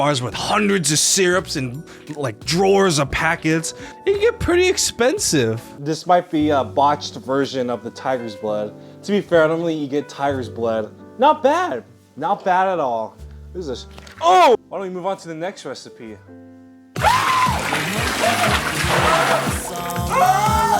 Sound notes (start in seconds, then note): 17.0 screaming